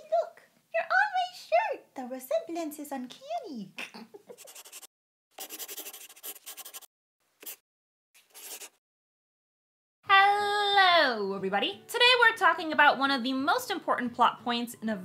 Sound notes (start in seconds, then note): 3.8 laughs; 5.3 the sound of a pen scratching